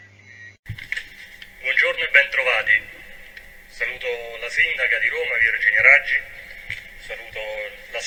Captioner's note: speaks Italian